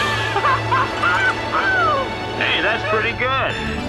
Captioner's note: laughing